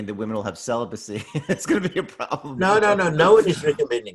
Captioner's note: laughs